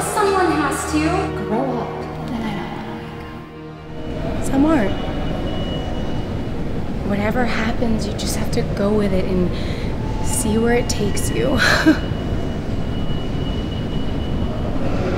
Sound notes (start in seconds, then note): 11.6 nervous laugh